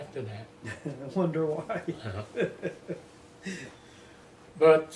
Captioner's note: laughter